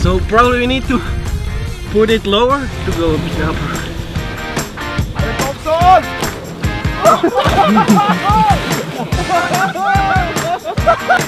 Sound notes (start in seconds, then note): 5.2 in Slovenian; 7.0 laughter